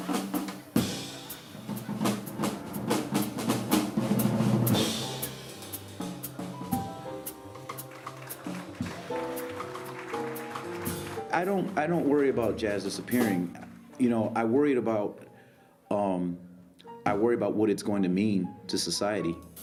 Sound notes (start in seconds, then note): 3.7 applause